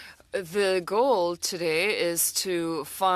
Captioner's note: speaking French